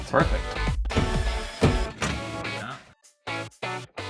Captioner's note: mechanical noises